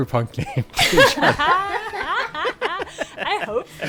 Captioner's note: laughing